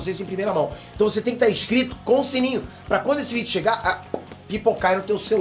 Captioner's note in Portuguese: pop